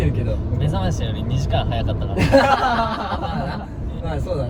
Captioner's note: laughs